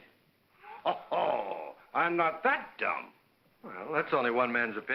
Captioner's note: laughs